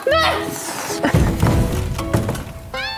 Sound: bang

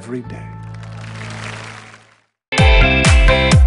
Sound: applause

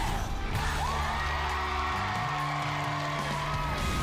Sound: crowd chanting "dr. phil!"; cheering and applause

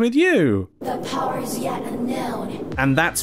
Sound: ominous whooshing

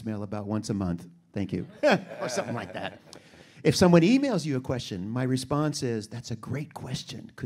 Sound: audience laughter

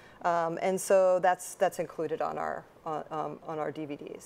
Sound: none

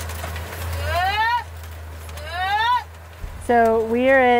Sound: driver whoops

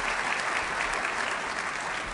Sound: applause

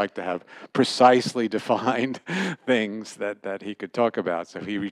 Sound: laughter

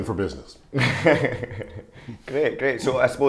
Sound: chuckling gently

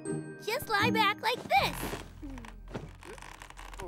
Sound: creaking

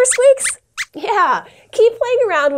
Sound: squeaks squeaks

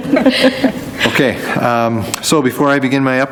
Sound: laughing

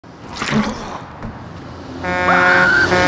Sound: squish; bus honking

